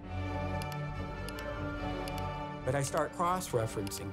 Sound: mouse clicking

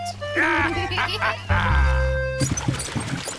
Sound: both giggle

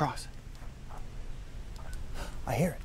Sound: nearby radio beeps; gasp

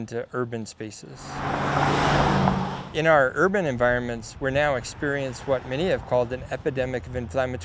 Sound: car driving

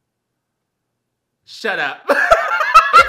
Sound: laughs

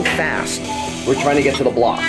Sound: beep

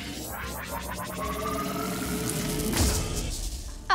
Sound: whirring intensifies; crackling; explosion

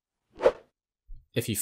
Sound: air wooshes

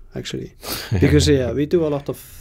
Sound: laughs

